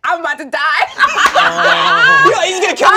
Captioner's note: laughing